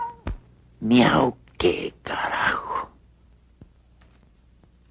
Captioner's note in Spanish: cat meowing